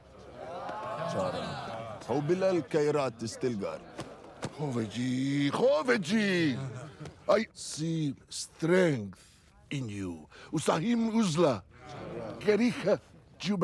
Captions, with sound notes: [fighters murmur in assent] [in English] I see strength in you.